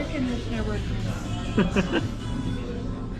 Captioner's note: laughs